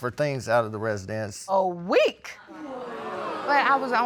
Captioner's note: audience gasps